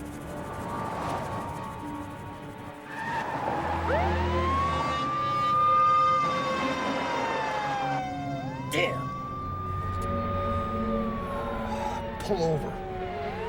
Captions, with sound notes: (sirens blaring) - Damn! Pull over.